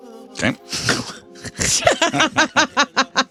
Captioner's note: laughing